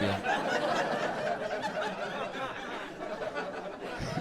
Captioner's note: audience laughs